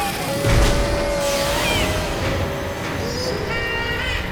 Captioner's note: wall-e screams